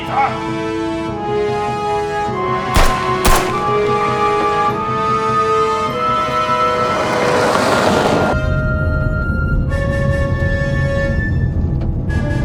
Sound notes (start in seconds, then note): 2.7 guns banging; 3.0 exciting music; 6.6 SUV engine revving; 9.4 suspenseful music